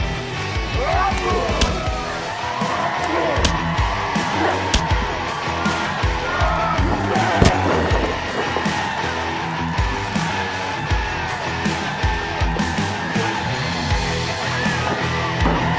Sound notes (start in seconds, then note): 4.7 another grunt and a thump from the hard hitting punch, but no effect; 4.7 another loud thump from the punches; 6.9 The loud smack from Dark Shadow’s boot hitting echoes